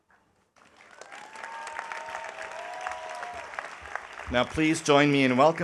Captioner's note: audience applauding